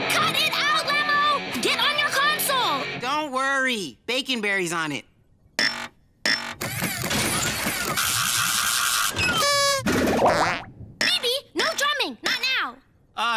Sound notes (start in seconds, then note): 5.6 error noises; 9.4 party horn blows